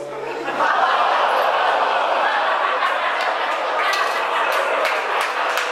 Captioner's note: audience laughing and clapping